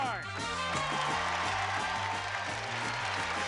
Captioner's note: applause